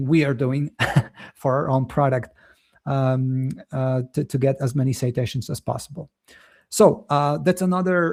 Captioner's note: chuckles